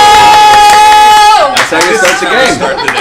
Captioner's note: cheering